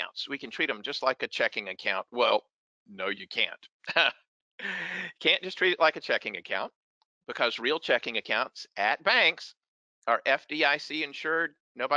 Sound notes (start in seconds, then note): 3.8 laughs